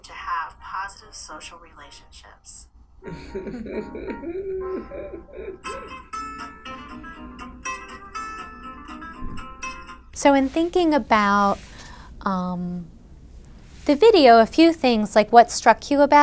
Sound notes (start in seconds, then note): 7.1 chuckling